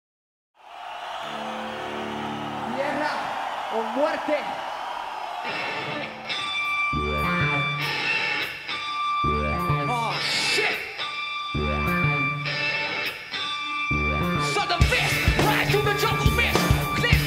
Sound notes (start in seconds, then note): 0.6 crowd cheering; 3.8 speaking Spanish; 10.7 heavy metal